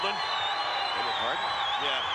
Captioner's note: spectators cheering